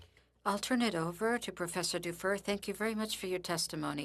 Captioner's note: speaking French